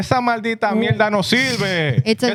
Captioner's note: non-english Speech